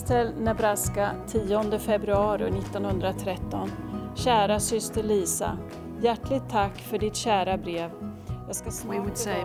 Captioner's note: Speaking in Swedish